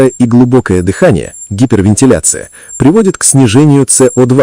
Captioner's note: hyperventilation